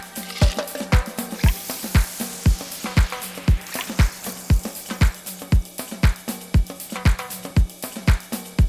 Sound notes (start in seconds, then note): 3.4 soda fizzing